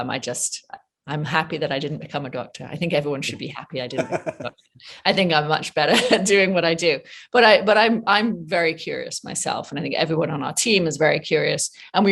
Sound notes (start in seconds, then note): 3.9 chuckles